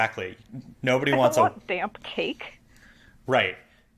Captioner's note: weird audio glitch, sorry!